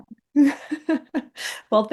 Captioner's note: laughing